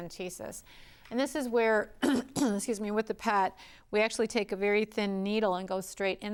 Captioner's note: clears throat